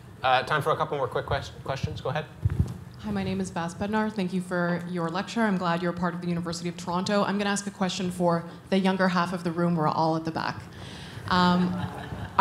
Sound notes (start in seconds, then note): 3.1 voiceover